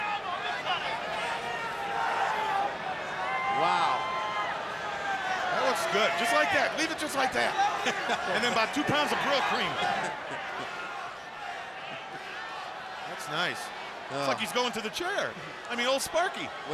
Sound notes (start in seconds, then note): 0.2 fans shouting; 10.1 Tony chuckles